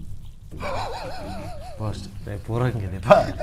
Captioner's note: giggling